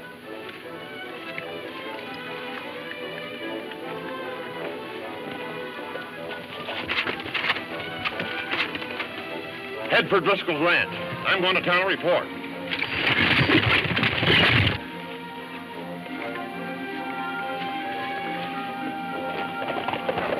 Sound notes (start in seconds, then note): 4.6 horses trotting; 12.0 horses galloping; 14.9 wistful music playing; 18.3 horses galloping